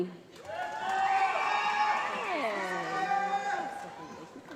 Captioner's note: applause